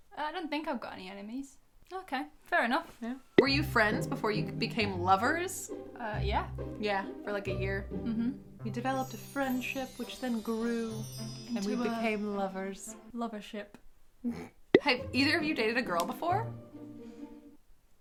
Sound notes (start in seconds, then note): 14.2 snorts